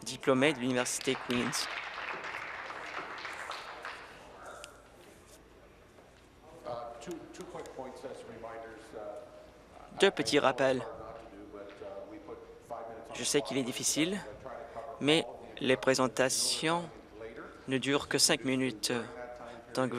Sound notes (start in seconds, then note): 5.4 applause